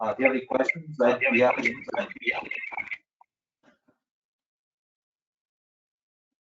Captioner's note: radio interference drowns out